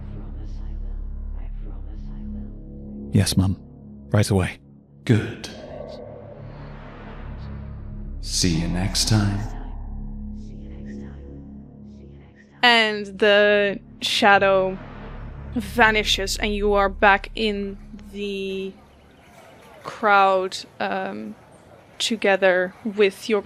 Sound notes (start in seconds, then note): 7.1 echoing